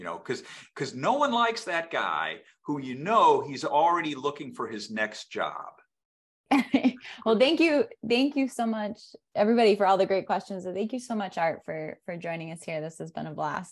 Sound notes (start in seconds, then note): 6.4 laughs